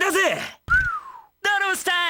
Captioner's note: whistles